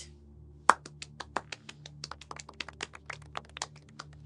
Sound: applauds

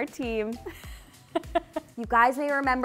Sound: chuckles

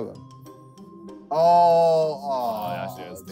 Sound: both groaning

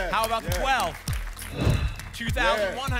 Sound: whoosh

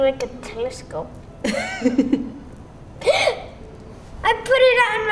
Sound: laughs; gasps

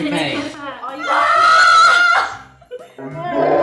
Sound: yelling; replay yelling

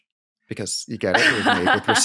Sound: laughs

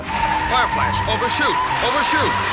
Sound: tyres screeching

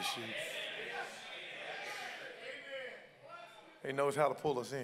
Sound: congregants call out

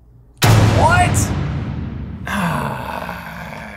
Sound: loud bang; grunts

